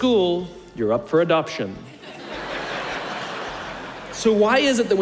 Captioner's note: laughter